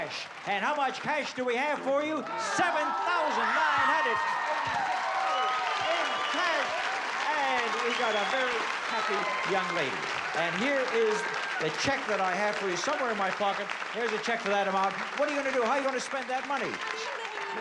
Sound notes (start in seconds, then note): 4.0 cheering